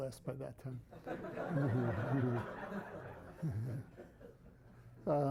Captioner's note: laughter